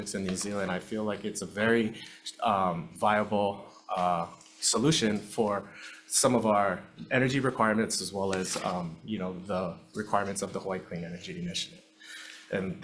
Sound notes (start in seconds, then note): none